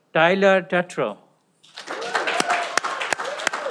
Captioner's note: cheering